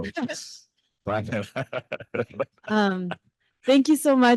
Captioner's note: laughing